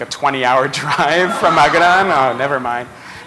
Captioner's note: laughter